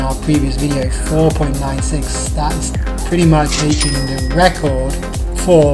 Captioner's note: dings